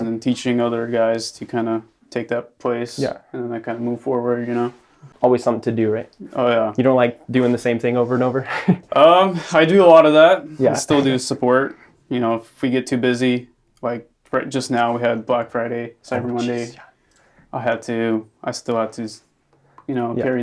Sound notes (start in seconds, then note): 8.4 laughs